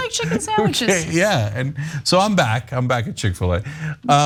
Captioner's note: laugh